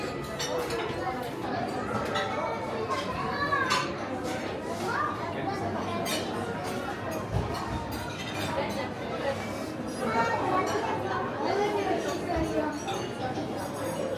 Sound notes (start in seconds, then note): 0.1 gentle buzz of guests chattering; 7.9 cutlery and plates clanking